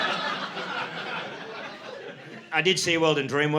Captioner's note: audience laughing